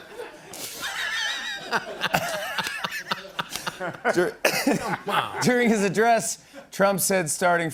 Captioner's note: laughter